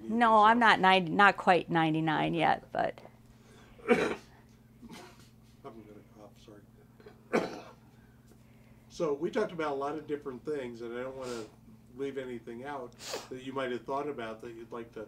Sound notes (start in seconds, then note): 3.7 coughs; 7.0 coughs